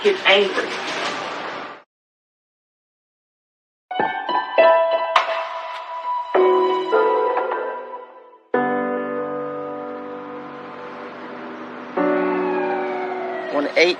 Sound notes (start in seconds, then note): 10.5 siren wailing